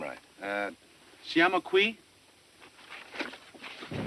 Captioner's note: speaking italian